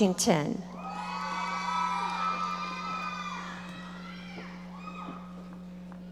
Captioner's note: audience members shouting